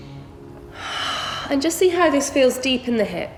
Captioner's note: heavy breathing